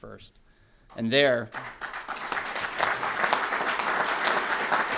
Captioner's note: applause